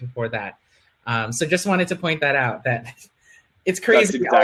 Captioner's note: laughing